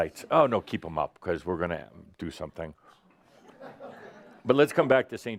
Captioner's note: a few chuckles